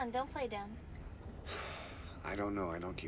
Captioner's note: sighing